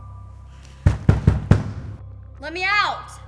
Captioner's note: knocking on door